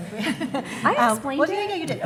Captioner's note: audience laughing